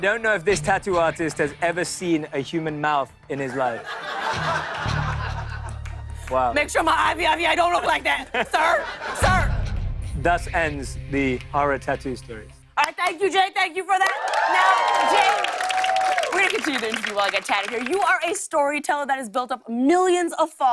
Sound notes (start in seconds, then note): 3.5 laughter